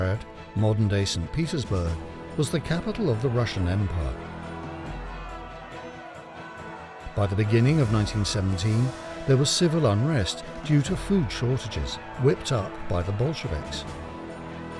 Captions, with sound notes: Petrograd, modern day St. Petersburg, was the capital of the Russian Empire. [citizens shouting] By the beginning of 1917, there was civil unrest, due to food shortages, whipped up by the Bolsheviks.